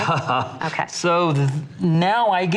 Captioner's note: laughs